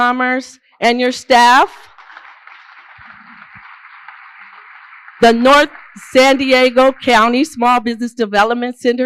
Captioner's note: applause